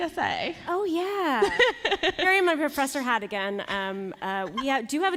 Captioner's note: laughter